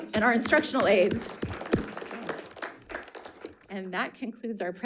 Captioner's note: members applauding